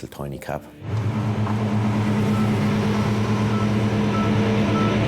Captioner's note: engine humming